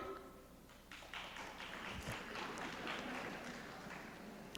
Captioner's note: scattered applause